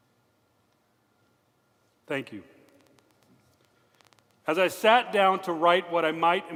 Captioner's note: moment of silence